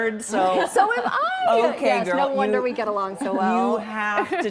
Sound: laughter

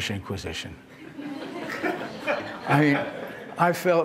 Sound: laughter

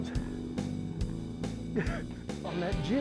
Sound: chuckles

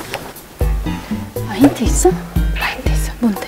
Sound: hesitant

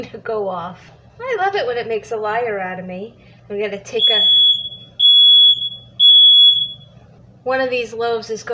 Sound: beep beep beep

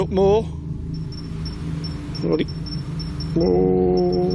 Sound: device beeps

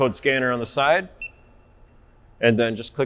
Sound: beep sound

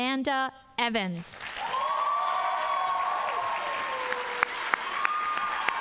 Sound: audience applauding

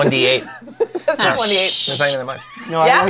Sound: laughs

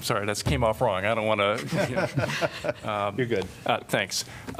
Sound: laughter

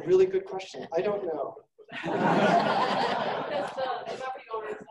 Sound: laughing

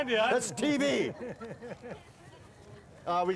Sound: laughter

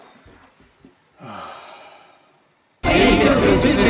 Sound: sigh

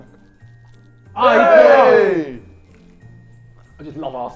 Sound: Sidemen cheering

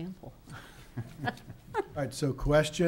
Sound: laughs

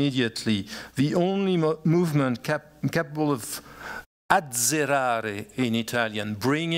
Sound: italian

